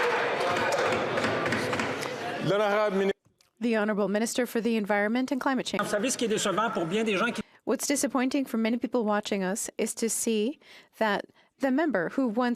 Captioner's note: some Applause